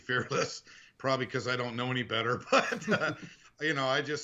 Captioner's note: laughing